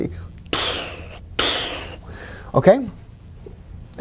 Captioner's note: whooshing